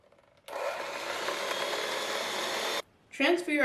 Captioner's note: mixer noises resume